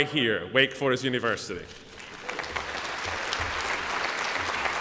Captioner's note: applause